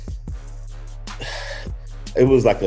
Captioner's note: sighs